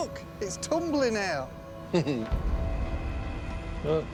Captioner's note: chuckles